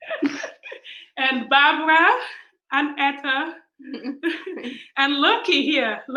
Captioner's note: laughs